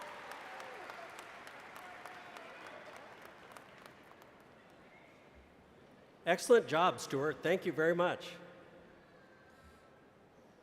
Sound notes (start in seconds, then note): 0.0 applause